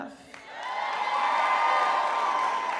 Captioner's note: crowd cheers